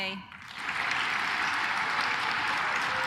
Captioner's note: claps